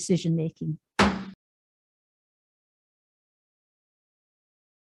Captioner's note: gavel bangs